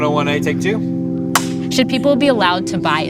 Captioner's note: loud clap